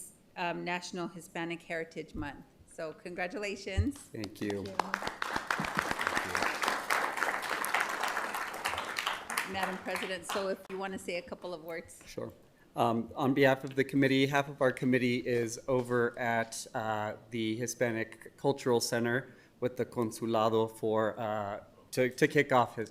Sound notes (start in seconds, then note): 10.5 applause